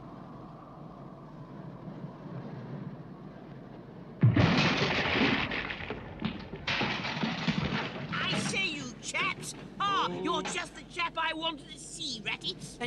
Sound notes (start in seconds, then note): 4.2 airplane crashes